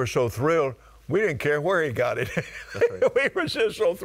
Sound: laughing

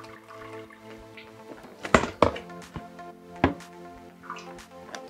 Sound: container thumping

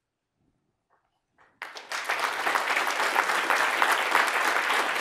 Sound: audience applauds

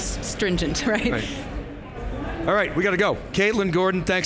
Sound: chuckles

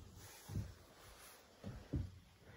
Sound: none

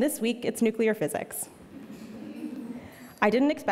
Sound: audience laughing

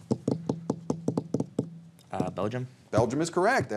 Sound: fingers tapping

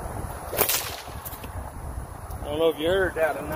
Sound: whip cracks

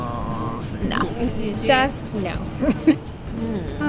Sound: murmurs

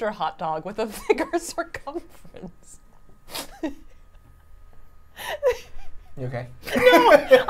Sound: laughs

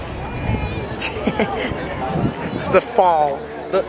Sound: snickers

